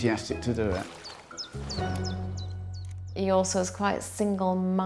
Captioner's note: water splashing; bright music swells